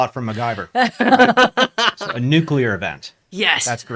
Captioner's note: laughs